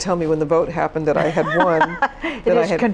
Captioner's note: laughs